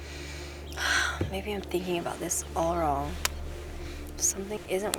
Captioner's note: sighs